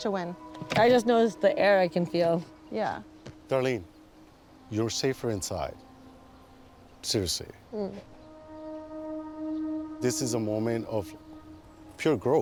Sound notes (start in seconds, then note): 7.7 murmurs